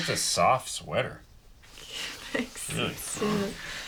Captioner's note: chuckling